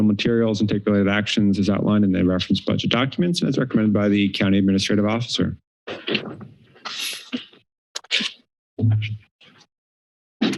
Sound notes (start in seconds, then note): 5.9 thud; 7.0 paper flips; 8.6 silence